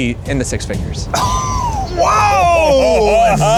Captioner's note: laughing; gasping